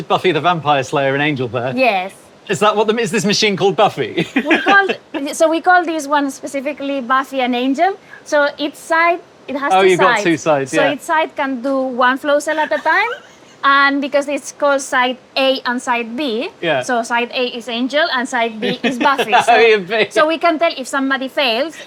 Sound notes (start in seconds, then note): 4.1 giggles; 13.1 wheezes; 18.5 laughs